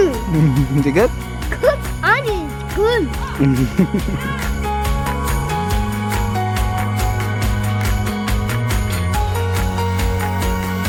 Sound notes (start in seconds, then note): 3.3 dad chuckles; 3.3 gentle music